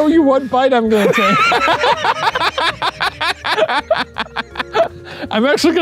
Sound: laughing

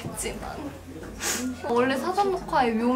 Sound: sniffle

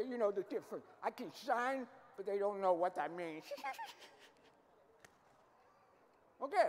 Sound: giggling

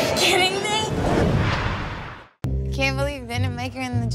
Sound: whooshing

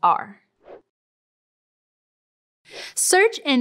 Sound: whoosh

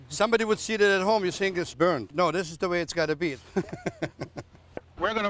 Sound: laughs

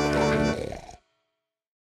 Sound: giggling

